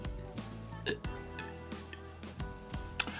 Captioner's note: chokes